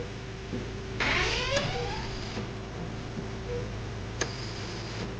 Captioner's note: door creaking